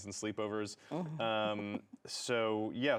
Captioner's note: chuckles